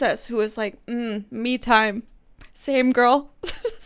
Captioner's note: laughs